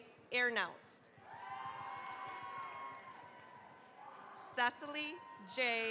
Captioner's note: cheering, applause